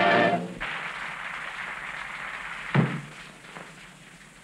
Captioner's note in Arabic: الجمهور يصفق